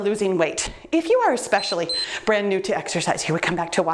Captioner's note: timer beeps